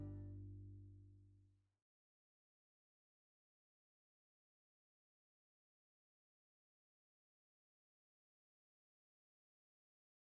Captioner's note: silence